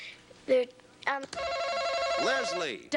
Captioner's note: buzzer buzzes